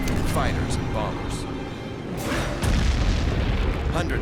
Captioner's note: explosions